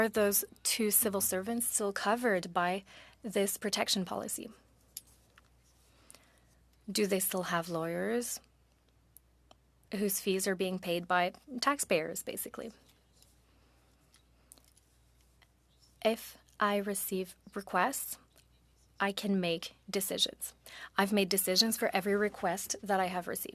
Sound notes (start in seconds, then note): 3.1 speaking French